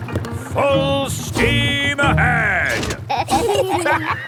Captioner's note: lever clangs; kids and captain dog laughing